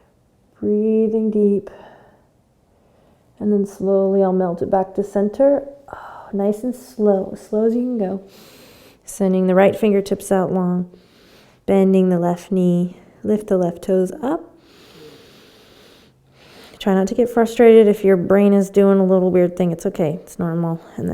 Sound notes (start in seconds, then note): 14.6 inhaling